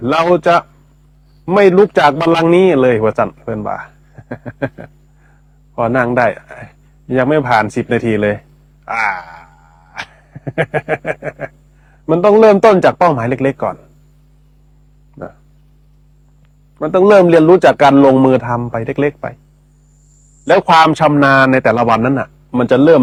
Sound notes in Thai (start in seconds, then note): 8.8 เสียงหัวเราะ